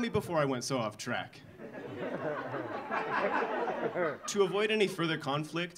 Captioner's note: audience laughing